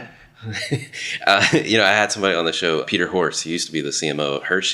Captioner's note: laughing